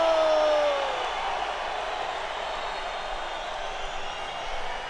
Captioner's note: crowd cheering